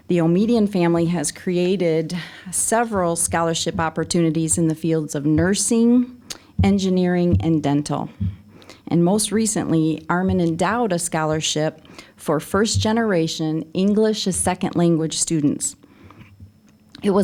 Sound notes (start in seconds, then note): none